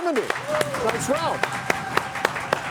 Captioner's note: audience clapping